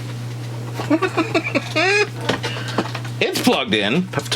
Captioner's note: man laughing